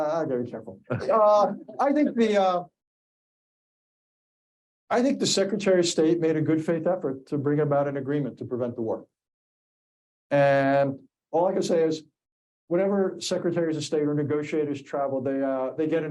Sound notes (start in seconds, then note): 1.3 audience laughing